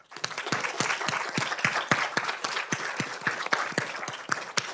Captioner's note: audience applauding